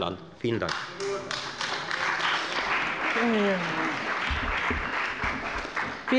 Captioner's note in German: Beifall bei der FDP und bei Abgeordneten der CDU und der SPD